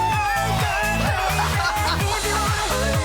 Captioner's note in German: lacht